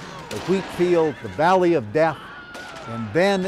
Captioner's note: horse squeals; soldiers shout